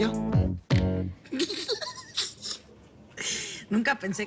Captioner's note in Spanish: Risas